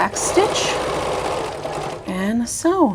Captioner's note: sewing machine whirring